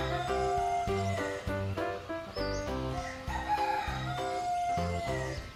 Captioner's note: rooster crows